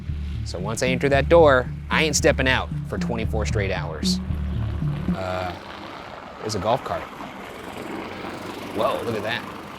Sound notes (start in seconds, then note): 4.7 golf cart rumbling